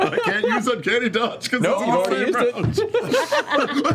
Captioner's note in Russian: смеётся